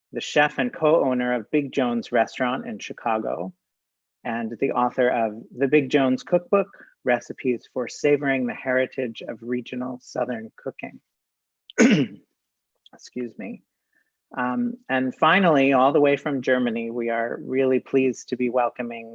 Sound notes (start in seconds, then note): 11.7 cough